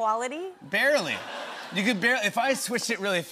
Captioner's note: laughter